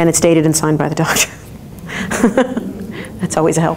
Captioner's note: laughs